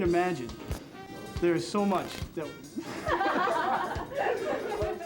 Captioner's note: laughs